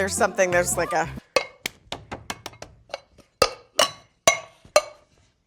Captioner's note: metal clanking